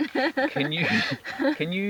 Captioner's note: laughs